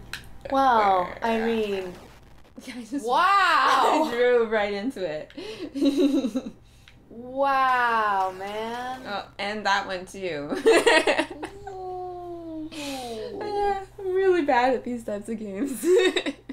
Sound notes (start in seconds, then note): 3.6 laughing; 5.7 laughter; 15.8 laughter